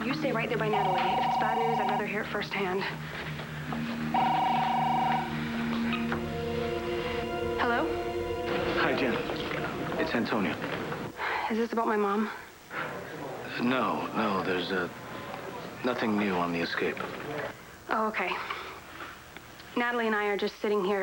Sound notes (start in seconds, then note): 0.0 ring; 5.7 ring